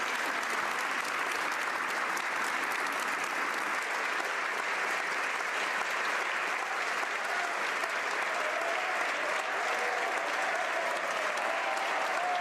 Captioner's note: cheering & Applause